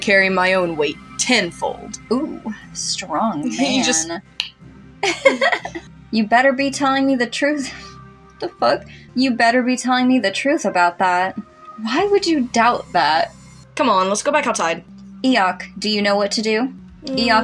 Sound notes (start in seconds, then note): 4.6 click; 5.0 laugh; 7.9 chuckle